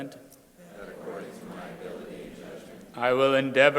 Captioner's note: crowd repeating